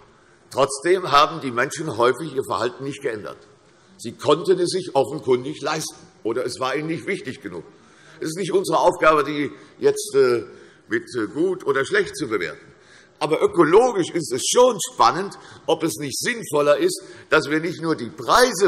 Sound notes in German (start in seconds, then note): none